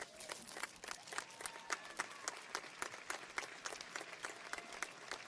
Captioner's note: audience applauds